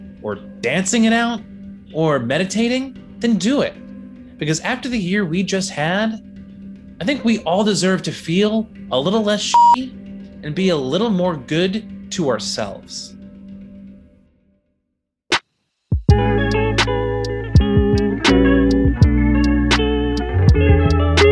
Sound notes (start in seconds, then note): 9.5 beeps